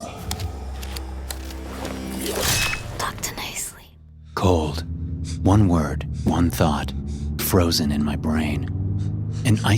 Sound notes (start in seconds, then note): 0.4 suspenseful music; 2.2 axe clangs